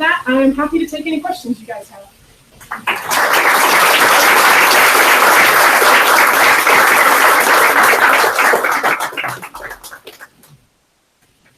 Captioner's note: applause